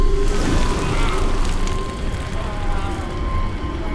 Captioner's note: fire crackles